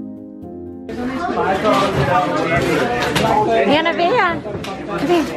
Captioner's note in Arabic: ثرثرة جماعية